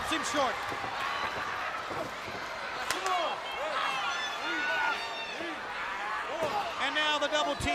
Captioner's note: crowd chatter